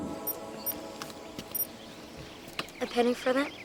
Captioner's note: beeping